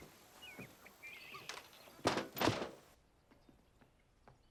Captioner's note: birds chirping